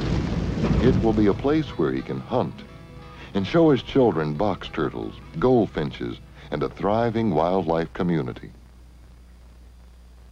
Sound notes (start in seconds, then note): none